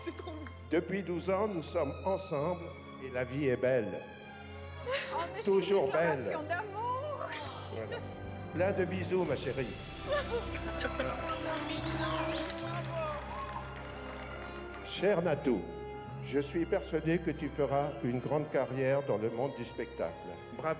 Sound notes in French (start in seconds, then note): 9.9 sifflements